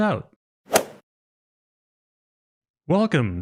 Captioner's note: golf swing sound effect